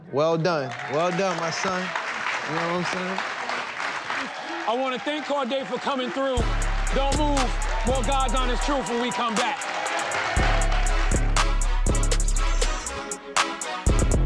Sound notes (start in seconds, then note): 2.3 audience applauding; 10.3 hip hop instrumental music